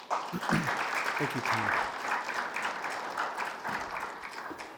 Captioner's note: attendees applauding